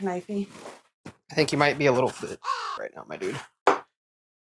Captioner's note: caw